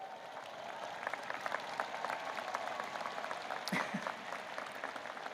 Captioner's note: audience applauding